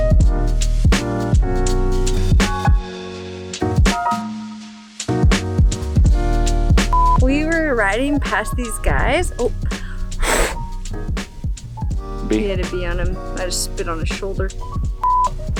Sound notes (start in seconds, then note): 0.1 calm music; 8.8 she blows